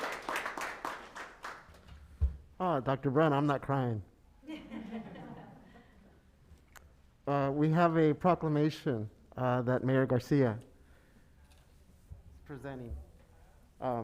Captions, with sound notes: - Dr. Brown, I'm not crying. (chuckles) We have a proclamation that Mayor Garcia presenting.